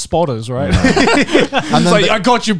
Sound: laughing

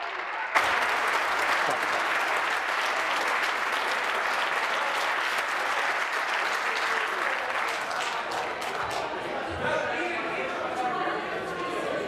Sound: applause

